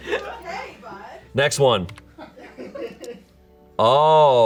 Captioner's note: audience laughing